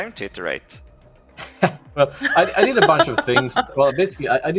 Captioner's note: laughs